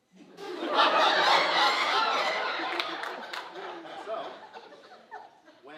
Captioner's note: audience uproariously laughing